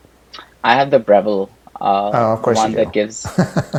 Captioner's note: laughs